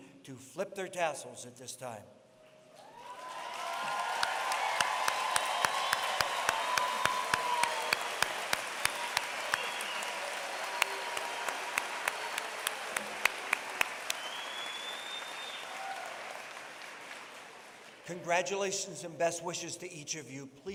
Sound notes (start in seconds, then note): 2.7 applause